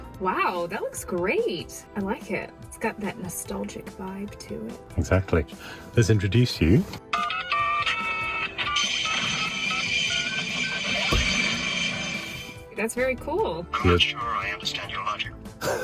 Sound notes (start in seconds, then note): 7.4 phone beeping